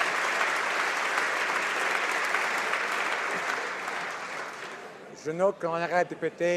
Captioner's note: applause